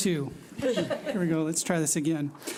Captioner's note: laughing